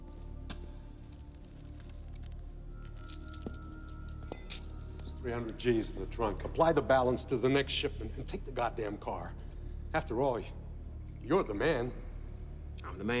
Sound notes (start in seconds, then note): 3.6 keys jingle